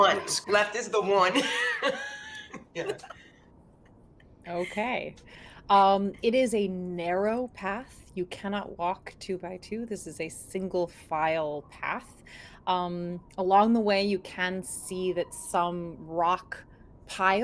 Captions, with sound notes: - The one. Left is the one. (laughs) - Okay. It is a narrow path, you cannot walk two by two, this is a single file path. Along the way, you can see that some rock piles